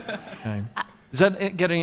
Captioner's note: laughs